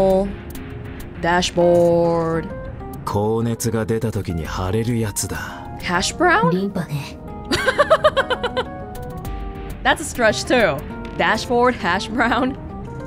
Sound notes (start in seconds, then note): 7.5 chuckles